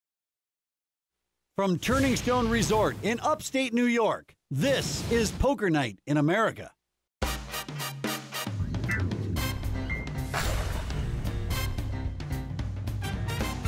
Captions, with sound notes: - [Voiceover] From Turning Stone Resort in upstate New York this is Poker Night in America. (exciting jazz music)